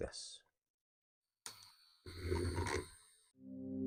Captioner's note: <i>Paint mixer noises</i>; <i>More nice mellow music</i>